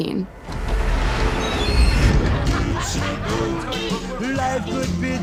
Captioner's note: doors creak